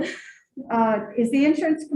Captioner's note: female chuckles